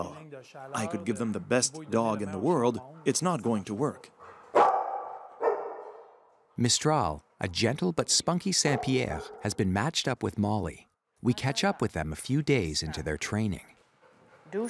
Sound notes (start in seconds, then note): 3.9 dogs barking